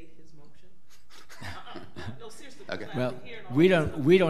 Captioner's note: men laughing